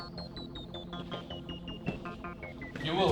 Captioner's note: descending footsteps